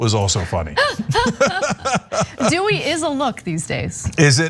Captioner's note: laugh